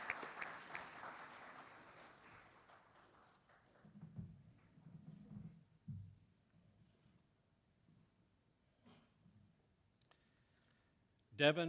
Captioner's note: applause